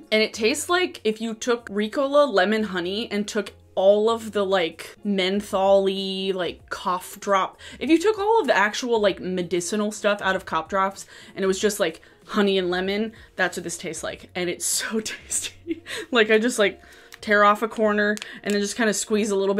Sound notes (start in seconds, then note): 15.6 laughs